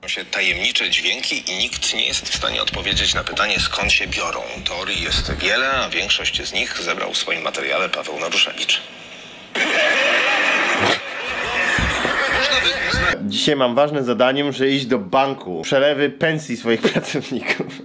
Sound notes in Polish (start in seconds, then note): 9.6 śmiech pochodzący z nagrania